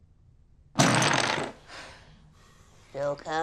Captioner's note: jenga pieces crash down